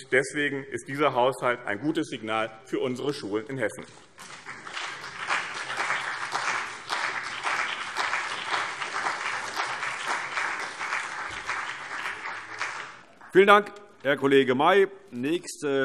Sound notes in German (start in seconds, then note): 4.1 Beifall BÜNDNIS 90/DIE GRÜNEN und CDU